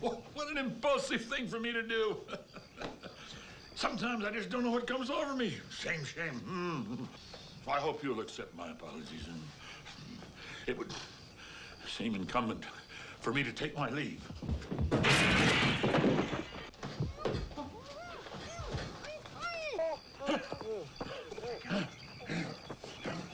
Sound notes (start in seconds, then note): 1.6 laughs; 6.4 chuckles nervously; 13.6 footsteps shuffling; 14.8 window shatters; 16.0 ground thuds; 16.9 Tommy groaning frantically; 17.3 Mrs. Macgruder gasps; 19.9 Hezekiah panting